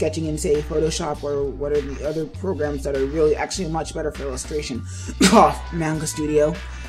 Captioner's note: cough